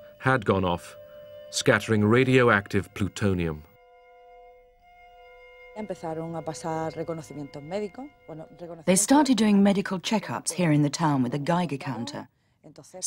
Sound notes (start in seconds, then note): 6.8 speaking Spanish